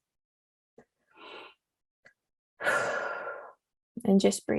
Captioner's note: breathes heavily